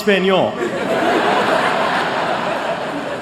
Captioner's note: laughter